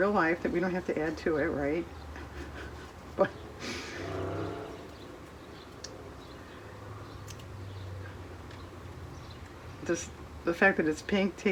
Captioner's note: laughs